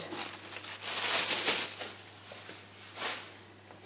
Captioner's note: bag rustles